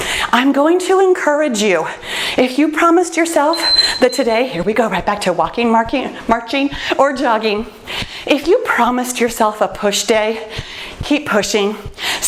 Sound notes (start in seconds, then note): 3.4 timer beeps